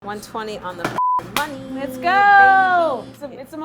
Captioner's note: beep